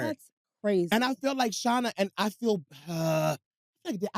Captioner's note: groans